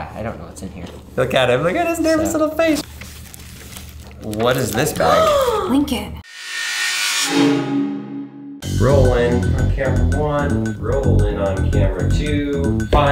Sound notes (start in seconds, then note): 5.7 gasps